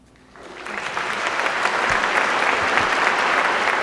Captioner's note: applause